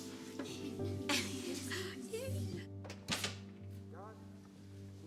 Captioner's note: Cassie laughs